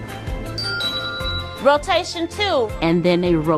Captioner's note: timer dings